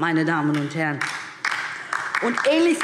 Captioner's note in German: Beifall DIE LINKE